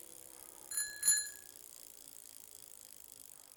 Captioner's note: bell ringing